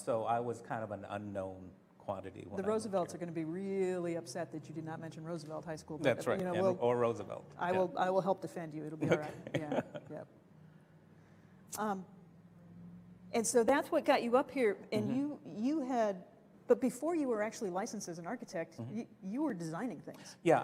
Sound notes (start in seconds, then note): 9.0 laughter